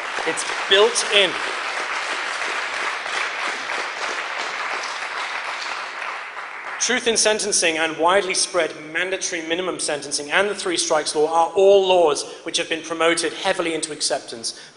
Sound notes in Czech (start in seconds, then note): 2.3 potlesk